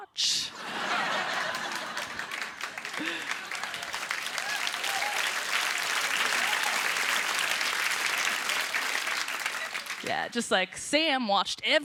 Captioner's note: applause